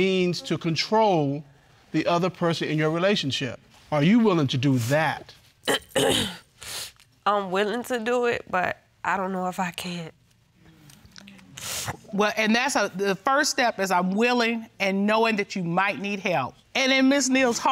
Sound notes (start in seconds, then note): 6.5 clears throat, sniffles; 11.5 sniffles